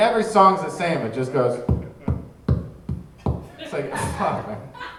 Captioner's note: mic tapping